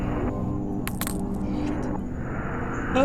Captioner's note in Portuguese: sussurrando